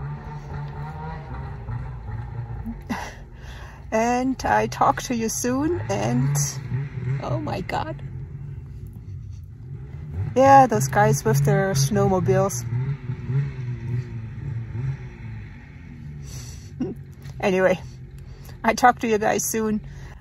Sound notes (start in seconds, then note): 0.1 laughs; 0.1 sound of snowmobile motor; 5.8 sound of snowmobile motor; 8.8 laughs; 14.6 laughs